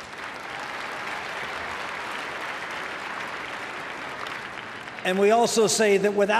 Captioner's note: applause